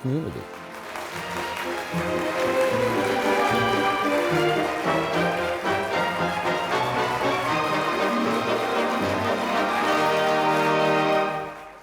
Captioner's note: applause